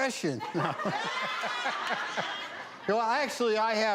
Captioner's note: audience laughs; laughs